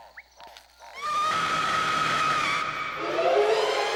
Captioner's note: screams